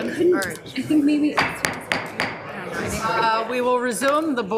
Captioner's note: gavel tapping